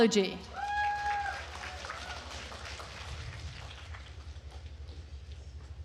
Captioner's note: attendees cheering and applauding